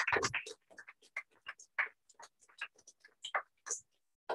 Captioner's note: applause